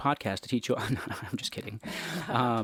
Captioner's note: laughs